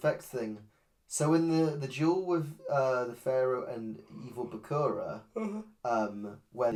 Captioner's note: yawns